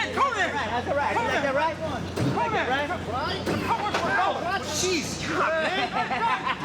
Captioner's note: people chattering indistinctly; people laughing